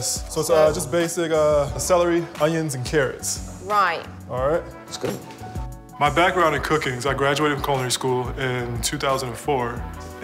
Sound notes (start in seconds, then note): none